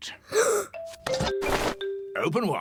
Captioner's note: gasps